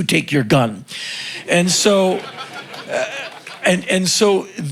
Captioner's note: crowd laughing